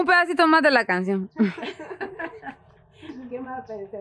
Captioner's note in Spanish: risas